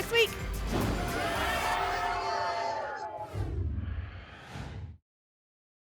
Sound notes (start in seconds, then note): 3.2 whoosh